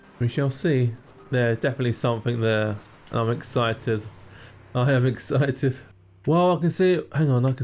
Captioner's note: laughs